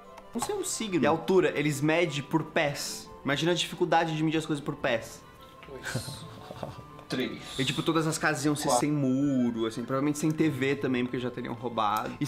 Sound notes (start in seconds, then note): 5.7 laughs